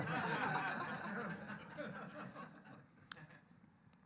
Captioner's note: laughing